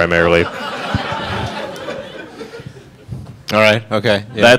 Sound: audience laughing

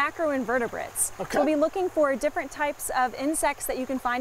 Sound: French

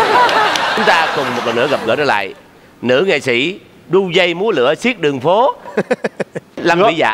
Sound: laughing

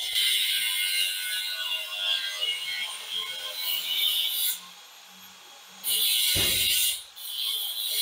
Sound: grinding

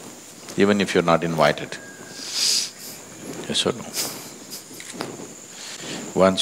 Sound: laughs

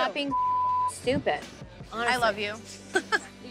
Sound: beep

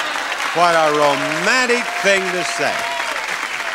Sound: audience clapping

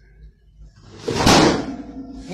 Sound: wham

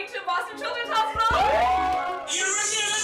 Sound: cheers

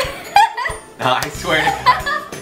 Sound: laughing

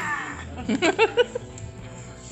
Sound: laughs

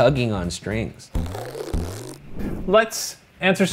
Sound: string stretching

